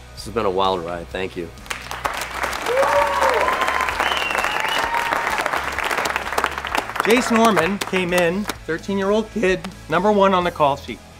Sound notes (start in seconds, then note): 2.3 cheering